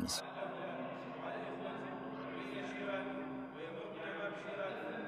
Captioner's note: speaking in a foreign language